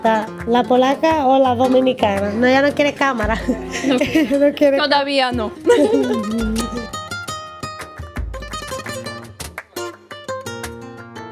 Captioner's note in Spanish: risas